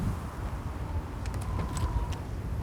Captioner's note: door creaks open